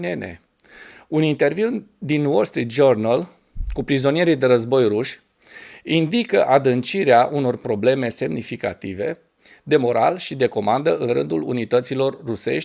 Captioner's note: pow